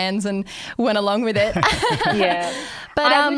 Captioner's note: laughing